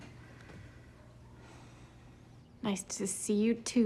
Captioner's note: sighs